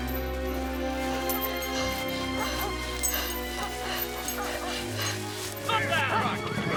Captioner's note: dogs barking; boy panting; men shouting; dogs barking